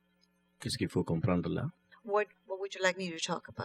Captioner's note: speaking french